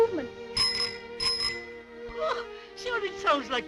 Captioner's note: ringing